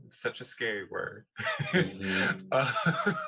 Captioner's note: laughter